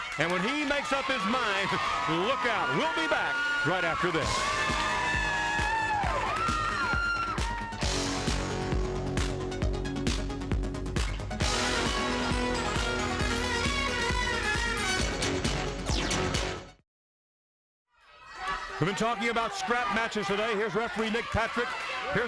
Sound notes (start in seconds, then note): 4.9 crowd clamoring; 4.9 lively music